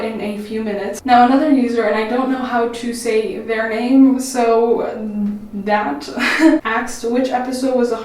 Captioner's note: laughs